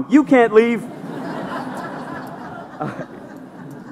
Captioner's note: laughter